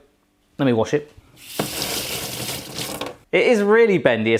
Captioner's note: running water